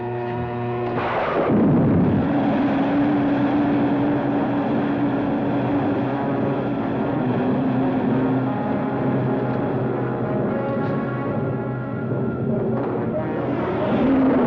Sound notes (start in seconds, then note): 1.0 rocket blastoff; 11.5 dramatic music